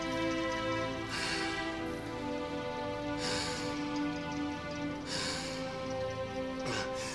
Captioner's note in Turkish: Nefes sesi